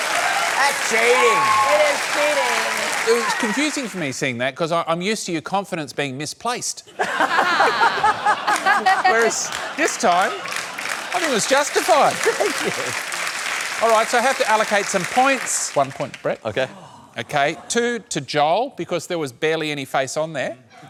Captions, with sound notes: That's cheating. It is cheating. It was confusing for me, seeing that, because I'm used to your confidence being misplaced. (LAUGHS) Whereas this time I think it was justified. (APPLAUSE) Thank you. Alright, so I have to allocate some points. One point, Brett. OK. OK. Two to Joel because there was barely any face on there.